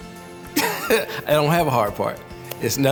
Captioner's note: laughs